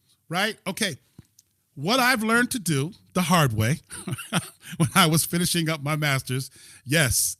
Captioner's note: laughter